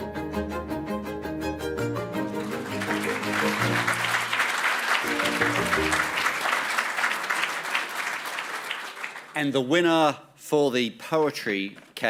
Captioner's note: applause